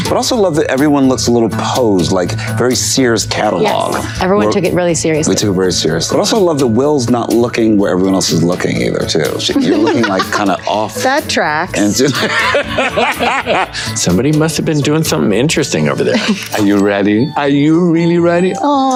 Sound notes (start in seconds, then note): 9.4 Kerri laughing; 11.7 Colman laughing